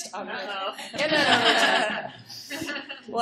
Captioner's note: laughter